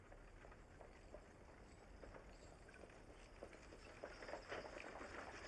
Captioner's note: horse and cart rattling